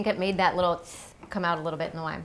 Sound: sucking

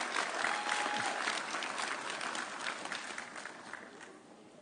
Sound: audience applauding

